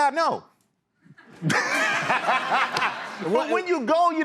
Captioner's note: laughter